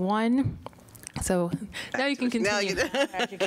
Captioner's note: laughter